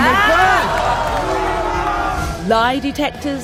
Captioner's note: audience claps and laughs